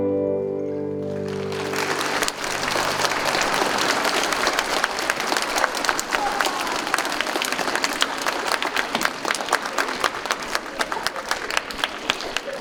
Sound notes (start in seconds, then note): 1.0 audience applauding